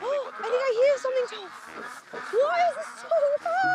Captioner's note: gasps